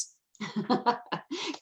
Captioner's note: laughs